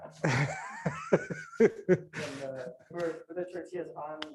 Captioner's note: laughs